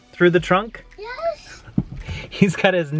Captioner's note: breathing heavily